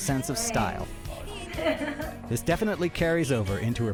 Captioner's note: laughs